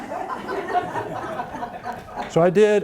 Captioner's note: audience laughing